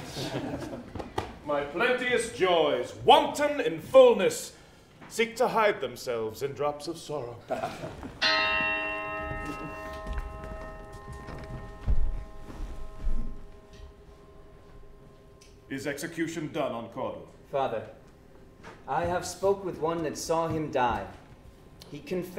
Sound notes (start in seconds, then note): 0.0 laughter; 8.2 bell dings